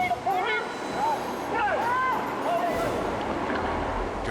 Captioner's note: water rushing; people shouting